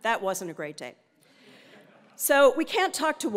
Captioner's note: laugh